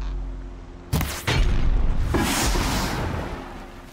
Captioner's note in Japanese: 爆発